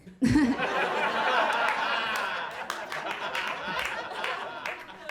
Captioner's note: audience laughing